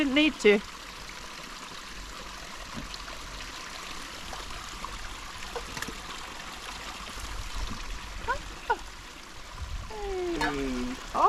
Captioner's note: water running